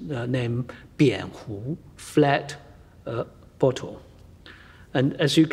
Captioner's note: speaks foreign language